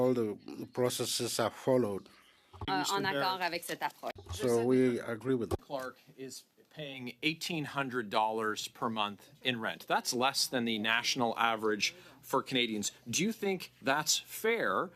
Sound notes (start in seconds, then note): 4.6 speaking French